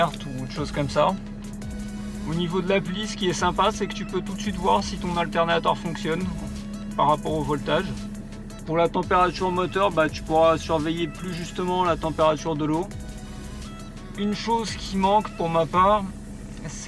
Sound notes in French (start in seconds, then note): 13.6 moteur